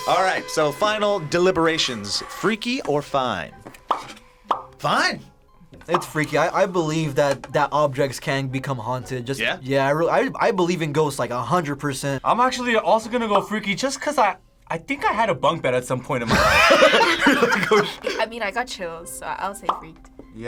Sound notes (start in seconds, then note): 16.2 both laugh